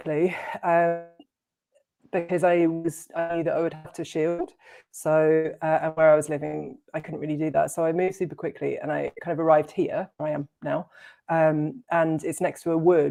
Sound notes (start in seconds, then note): none